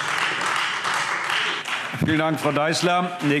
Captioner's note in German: Lebhafter Beifall Freie Demokraten